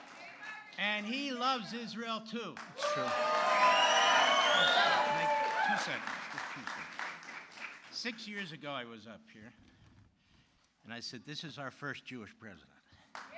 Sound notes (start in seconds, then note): 2.5 applause